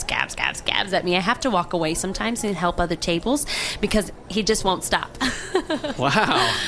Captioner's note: laughs